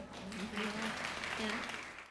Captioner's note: audience applauds